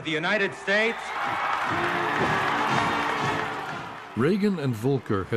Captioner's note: crowd cheering, " "playing